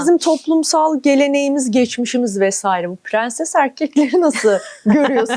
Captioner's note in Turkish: kahkaha